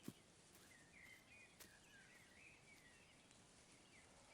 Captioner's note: birds singing